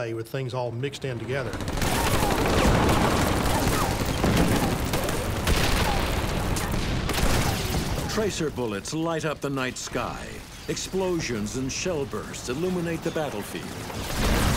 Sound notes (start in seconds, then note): 1.4 rapid gunfire exploding; 1.6 cannon shots exploding; 13.6 rapid gunfire exploding; 13.7 cannon shots exploding